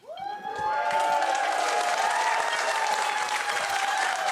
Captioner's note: audience cheers